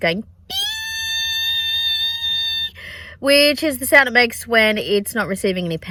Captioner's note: makes high-pitched noise